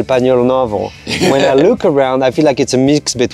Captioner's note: group laughs